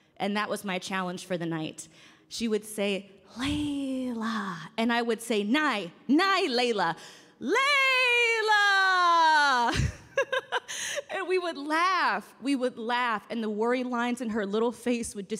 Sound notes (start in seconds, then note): 9.3 laughs